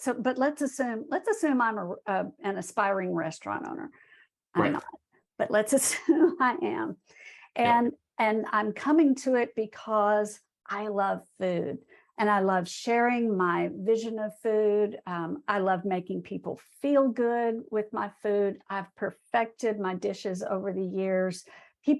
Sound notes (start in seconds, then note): 4.6 laughs